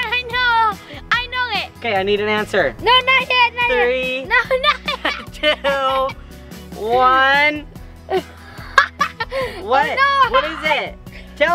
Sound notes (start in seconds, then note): 8.1 laughing